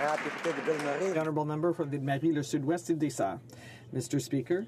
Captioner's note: some Applause